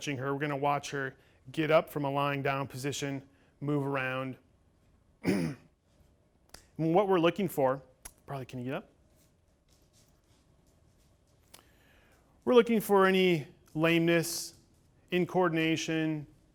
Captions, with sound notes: We're gonna watch her get up from a lying down position, move around (clears throat). And what we're looking for... Barley can you get up? We're looking for any lameness, incoordination,